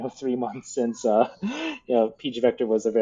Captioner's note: laughs